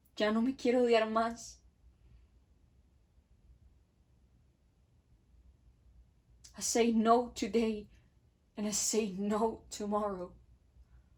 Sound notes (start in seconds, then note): none